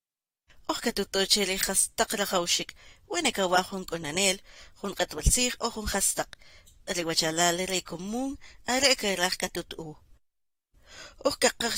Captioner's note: speaking different language